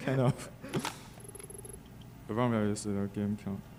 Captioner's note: text beeping